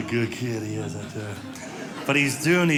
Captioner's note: audience laughing